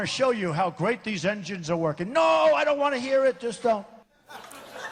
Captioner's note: laughter